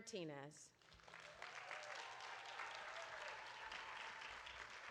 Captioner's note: audience applauding